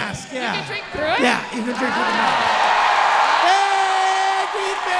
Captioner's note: audience cheering